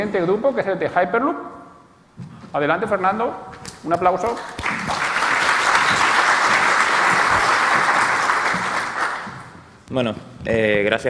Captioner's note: applause